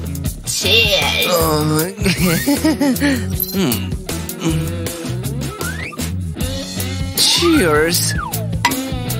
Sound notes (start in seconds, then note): 3.6 nervous